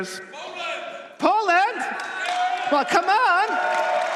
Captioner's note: applause